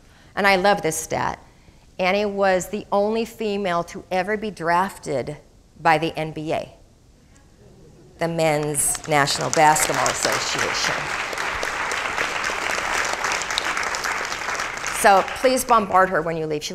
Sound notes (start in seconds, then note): 11.1 crowd applauding